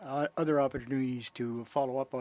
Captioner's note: speaking French